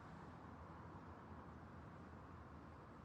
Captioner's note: none